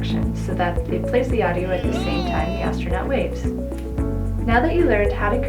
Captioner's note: astronaut yelling "Hellooo!" in background